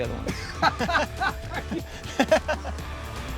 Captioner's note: both laughing